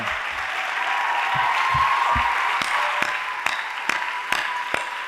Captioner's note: audience applauding